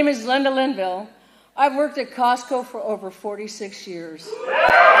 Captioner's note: applause